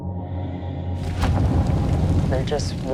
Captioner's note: flames crackling